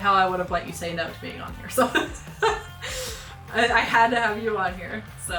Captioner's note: chuckles